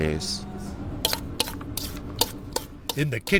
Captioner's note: knife chopping